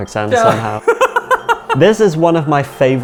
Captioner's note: laughs